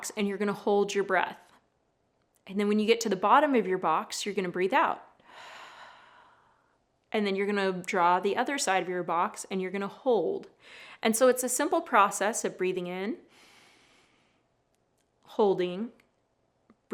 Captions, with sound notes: and you're gonna hold your breath. And then when you get to the bottom of your box, you're gonna breathe out.(exhales) And then you're gonna draw the other side of your box and you're gonna hold. And so it's a simple process of breathing in,(inhales) holding,